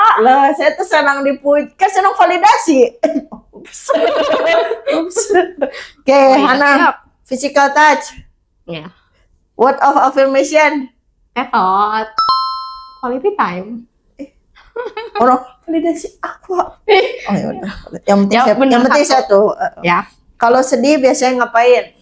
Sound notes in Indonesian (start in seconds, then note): 3.8 tertawa